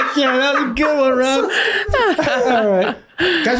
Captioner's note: everyone laughing